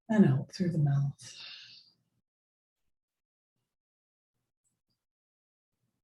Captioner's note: exhales sharply